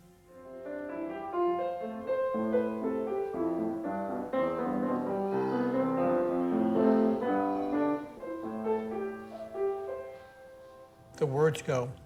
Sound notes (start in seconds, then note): 0.3 gentle piano music playing; 5.2 child yelling in the background